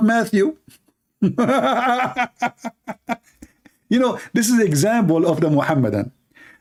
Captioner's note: Ketawa